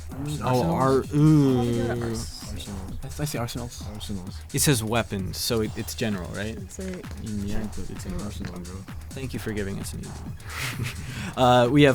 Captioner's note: whispering